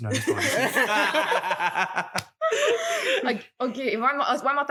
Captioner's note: laughs